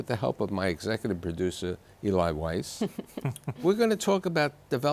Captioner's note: guests laughing